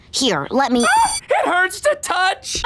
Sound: screaming

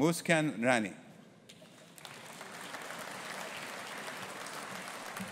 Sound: audience applauding

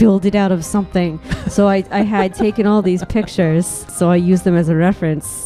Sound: laughing

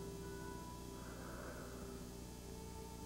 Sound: none

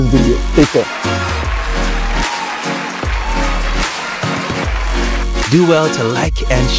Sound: upbeat continues; audience cheering

